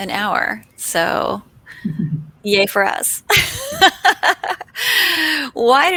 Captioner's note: laughs